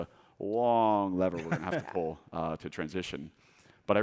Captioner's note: laughing